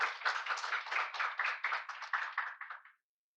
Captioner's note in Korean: 박수